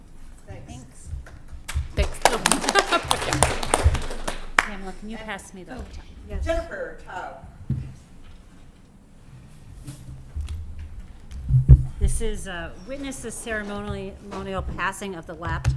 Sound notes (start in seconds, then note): 2.0 applause